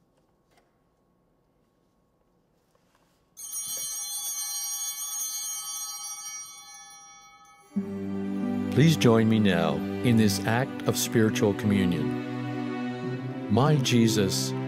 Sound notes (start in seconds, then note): 3.4 bell ringing